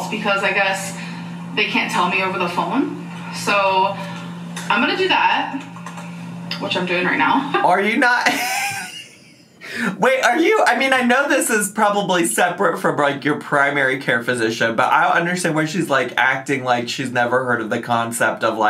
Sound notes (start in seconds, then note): 8.1 laughs